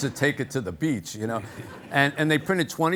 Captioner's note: audience laughing